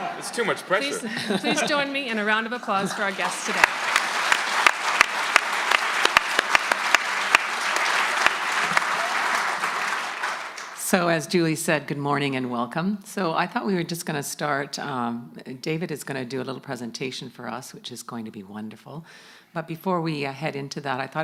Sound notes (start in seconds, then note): 4.7 audience applauding